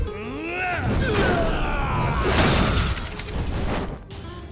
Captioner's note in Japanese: うめき声; 叫び声